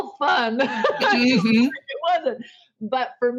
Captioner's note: laughing